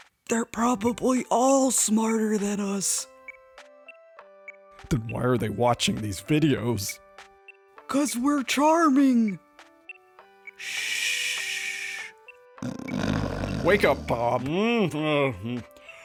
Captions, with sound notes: They're probably all smarter than us. Then why are they watching these videos? 'cause we're charming. Shh. (sound of snoring) Wake up, Bob! Huh? Uh. Hmm.